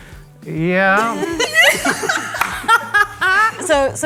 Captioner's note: everybody laughing